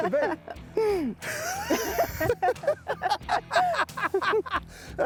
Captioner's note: both laughing